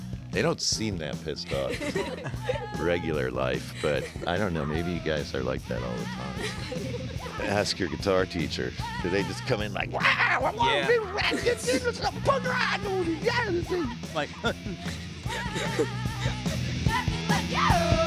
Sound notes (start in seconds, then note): 9.9 imitates screaming; 14.3 all laughing